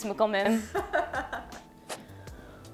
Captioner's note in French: rires